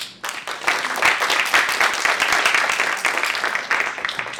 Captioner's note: applause